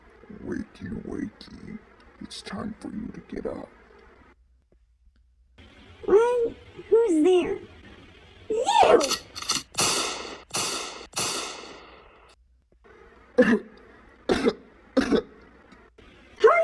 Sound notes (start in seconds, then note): 9.0 gun shot-gun shot-gun shot; 14.9 coughing